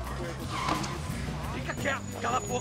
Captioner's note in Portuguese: Pneu do carro cantando